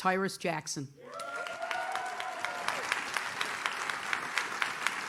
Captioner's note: audience cheers